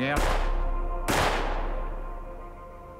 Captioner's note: gunfire